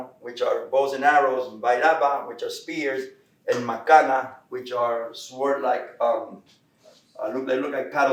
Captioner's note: Spanish; Spanish